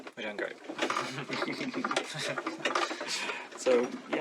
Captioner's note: Beevis and Butt-head-esque sniggering